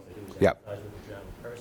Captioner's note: voiceover